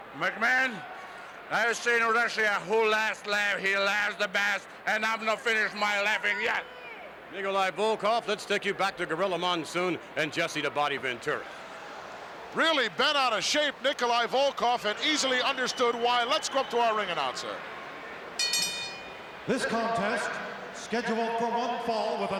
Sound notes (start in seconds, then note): 18.4 bell rings